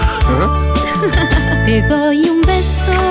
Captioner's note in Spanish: Música alegre; Risas